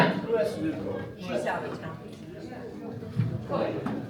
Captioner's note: crowd chattering